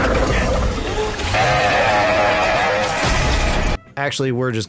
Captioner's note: freddy scream